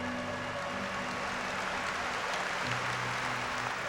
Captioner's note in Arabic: تصفيق